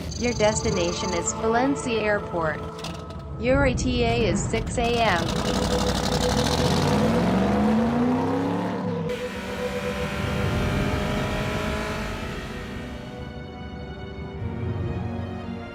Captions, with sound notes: Your destination is Valencia Airport. Your E.T.A. is 6:00 AM [Ferrari pulling up] [melancholic music]